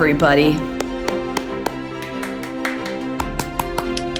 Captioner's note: applauding